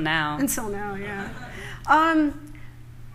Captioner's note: laughter